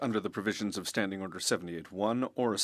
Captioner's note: speaking French